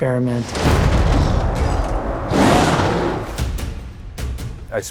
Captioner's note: tiger roaring